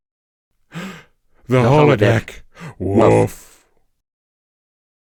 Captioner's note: gasp